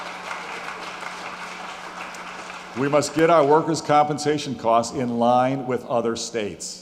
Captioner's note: applause